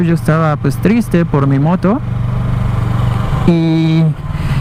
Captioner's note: motorcycle